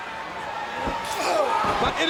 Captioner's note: wrestlers grunt